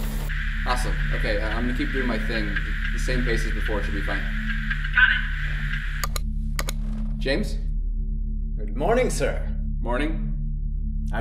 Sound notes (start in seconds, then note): 6.0 buttons click